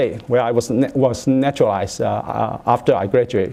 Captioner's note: none